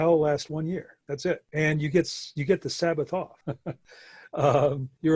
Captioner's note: chuckles